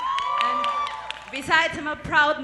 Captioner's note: applause